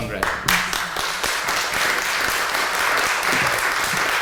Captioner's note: applause